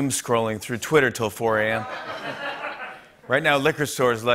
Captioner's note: laughter